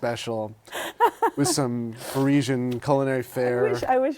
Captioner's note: laughter